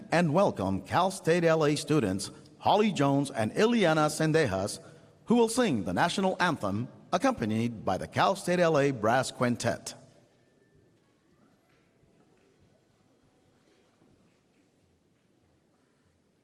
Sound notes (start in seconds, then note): none